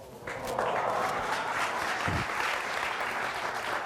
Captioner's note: audience applauds